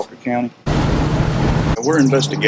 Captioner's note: car engine rumbles